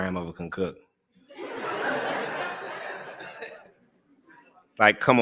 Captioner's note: laughter